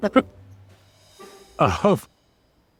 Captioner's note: laughs